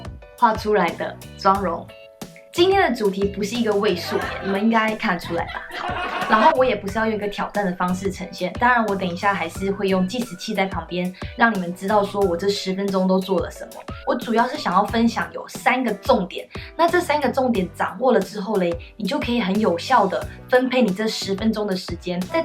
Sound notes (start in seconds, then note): 3.8 laugh🤣